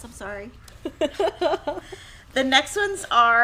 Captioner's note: laughing